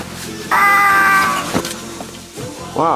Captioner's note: Pepsiman screams